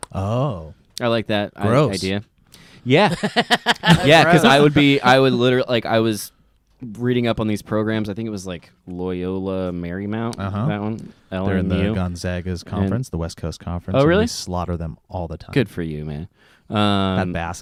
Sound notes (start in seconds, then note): 3.0 laughs